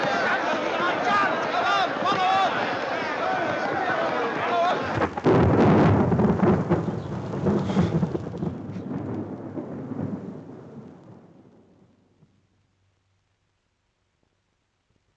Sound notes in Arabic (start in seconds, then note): 1.0 صوت الرعد